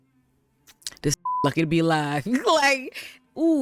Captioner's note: beep